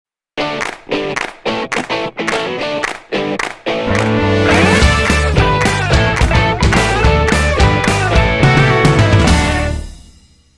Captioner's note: claps